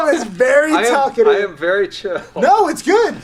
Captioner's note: laughs